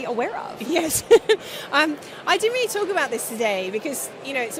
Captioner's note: laughs